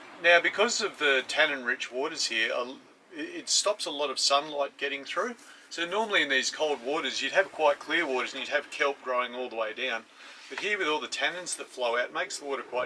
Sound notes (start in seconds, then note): none